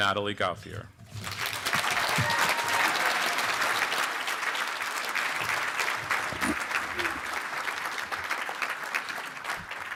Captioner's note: clapping